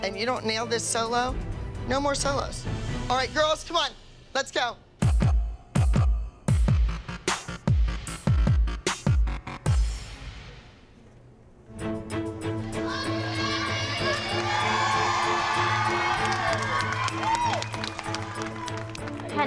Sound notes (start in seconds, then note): 15.8 cheering and applause